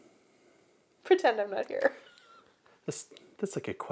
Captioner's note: laughs